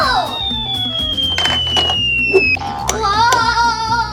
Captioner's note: boing